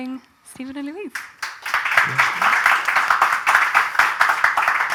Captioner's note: audience applause